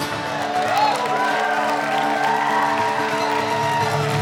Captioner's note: cheering and applause